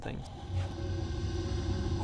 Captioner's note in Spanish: ruidos espeluznantes